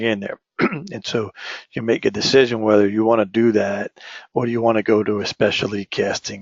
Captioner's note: cough